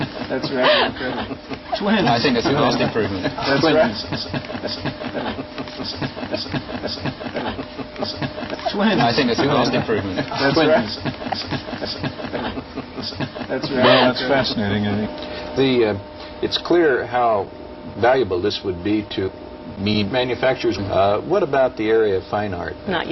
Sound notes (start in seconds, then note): 4.4 chortling; 10.9 snickering